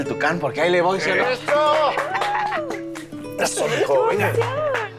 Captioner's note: cheering